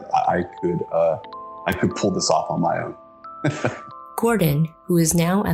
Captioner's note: laughs